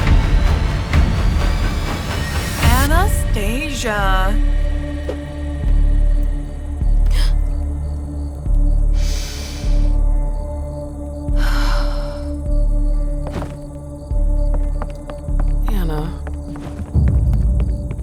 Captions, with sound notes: Anastasia. [deep breath] Ana--